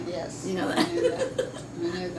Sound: laughs

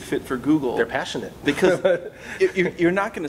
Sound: laughing

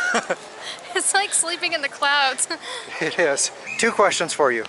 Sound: laughter

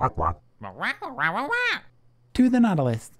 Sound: instructive squawking; affirmative squawking

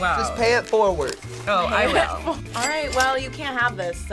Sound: laughs

